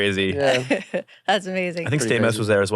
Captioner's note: laughs